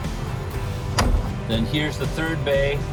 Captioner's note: door latches